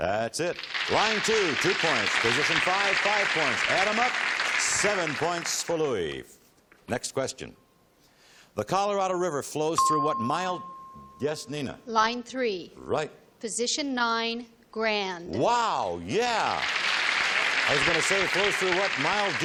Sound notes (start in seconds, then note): 16.2 applause